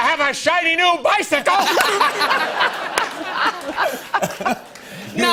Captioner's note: laughter